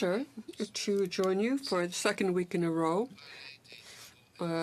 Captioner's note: speaking in french